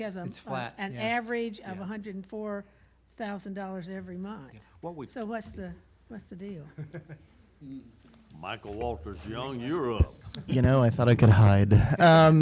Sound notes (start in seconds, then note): 6.7 laughs; 12.1 laughs